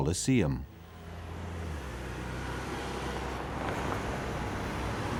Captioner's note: engines whining